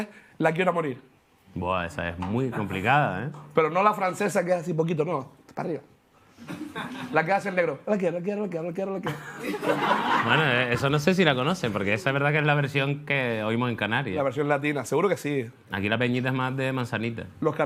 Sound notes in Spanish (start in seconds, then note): 8.5 canturrea